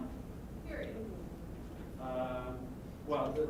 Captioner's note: voiceover